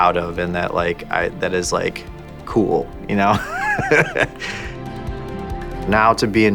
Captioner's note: laughing